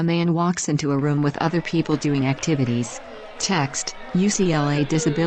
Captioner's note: applause